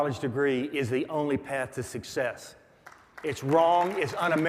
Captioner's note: audience applauds